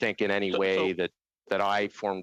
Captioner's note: in Unison